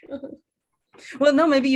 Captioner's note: both laugh